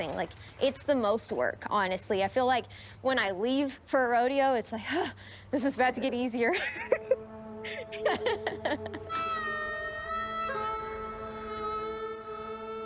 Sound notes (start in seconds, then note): 7.5 chuckling; 10.0 western music